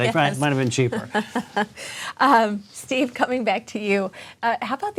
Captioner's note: laughs